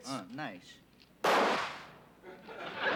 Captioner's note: gunshot; laughter